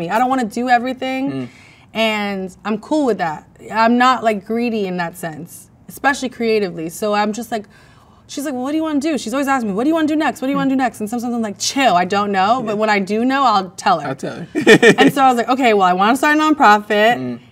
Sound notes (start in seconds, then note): 14.5 man laughs